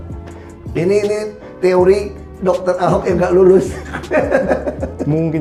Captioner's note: laughing